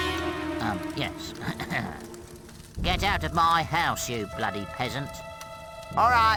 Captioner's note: cough